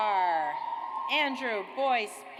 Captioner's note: audience applauds